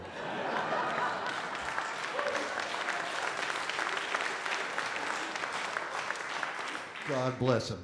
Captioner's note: audience Laughing and Applause